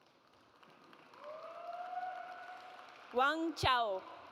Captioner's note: audience applauds